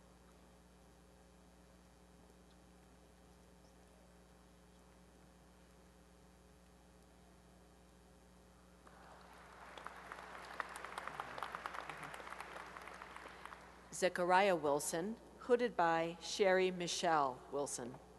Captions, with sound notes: [applause] Zechariah Wilson, hooded by Sheri Michele Wilson.